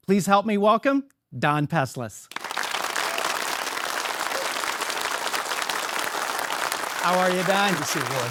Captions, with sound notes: Please help me welcome Don Peslis. (audience applauds) How are you, Don?